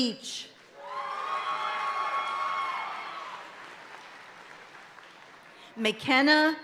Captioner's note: audience cheering and applauding continues